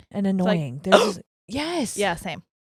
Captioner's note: hiccuping loudly